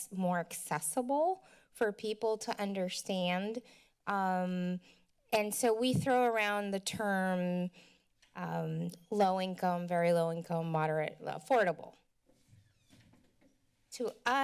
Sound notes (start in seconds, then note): none